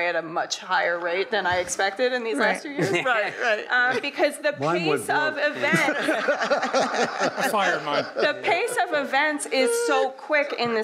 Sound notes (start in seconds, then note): 5.6 audience laughing